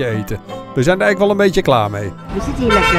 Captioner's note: voiceover